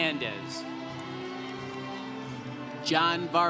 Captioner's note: congregation cheering